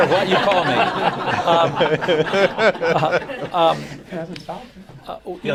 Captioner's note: laughter